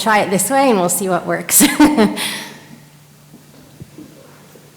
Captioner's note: laughs